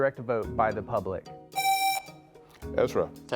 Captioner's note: presses buzzer